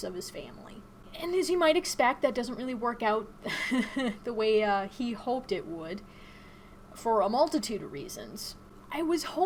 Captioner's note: chuckles